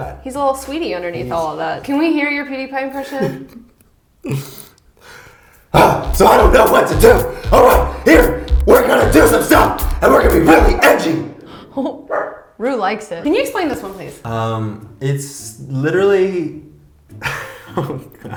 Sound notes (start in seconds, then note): 5.8 yells; 5.9 grunts; 12.1 roux barks; 17.2 laughs under breath